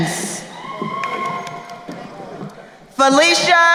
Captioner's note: crowd cheering